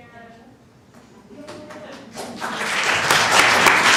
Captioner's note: applause